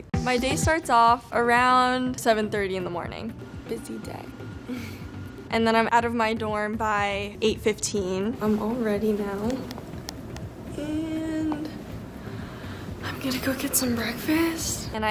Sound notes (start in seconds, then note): 4.8 chuckles